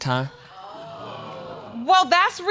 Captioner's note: audience exclaiming